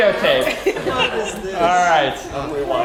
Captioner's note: laugh